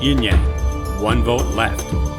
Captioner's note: none